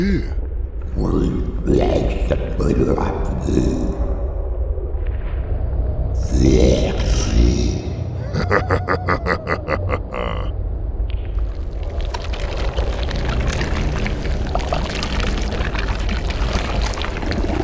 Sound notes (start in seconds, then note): 8.1 laughs evilly